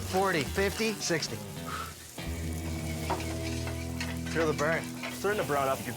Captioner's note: exhales